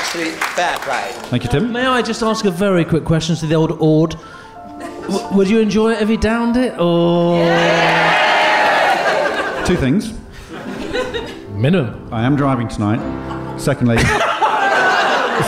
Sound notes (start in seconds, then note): 7.2 audience cheers in support and disapproval; 13.9 laughter